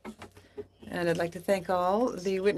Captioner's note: speaking in French